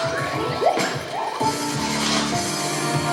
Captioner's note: none